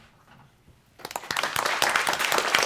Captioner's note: applause